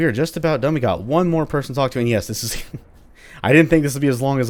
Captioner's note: chuckles